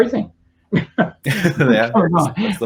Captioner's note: chuckles